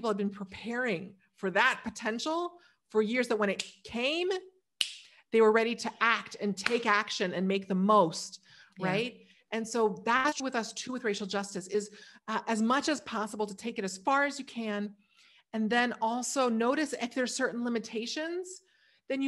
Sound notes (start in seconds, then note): 4.8 snaps fingers; 6.6 claps